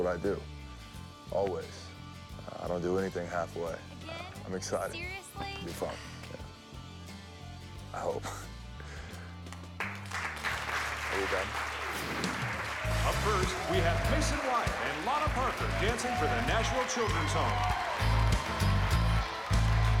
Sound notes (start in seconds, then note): 9.7 applause